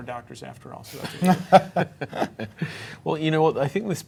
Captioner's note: panelists laughing